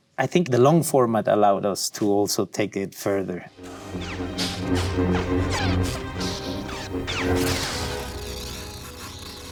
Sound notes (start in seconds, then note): 3.5 dramatic music; 3.9 lightsabers clashing